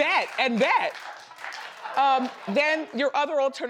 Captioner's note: audience claps